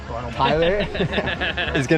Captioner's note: everybody laughing